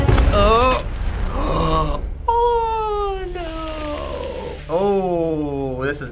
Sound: gasping

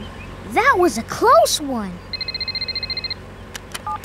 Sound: ringing

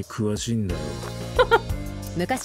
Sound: chuckles

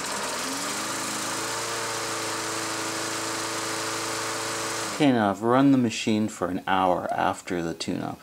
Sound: mower starts

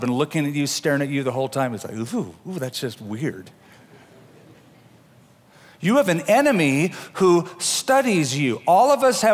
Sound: laughter

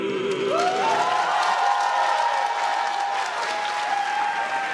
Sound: crowd claps and cheers

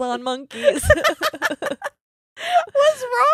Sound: both laughing

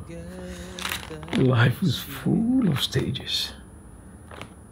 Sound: sighs

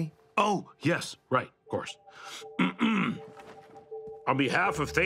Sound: clears throat

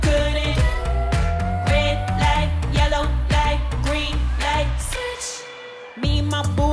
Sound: ooh

